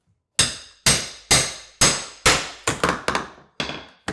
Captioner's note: hammer clanging